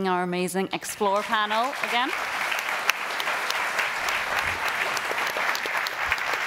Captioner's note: audience applauding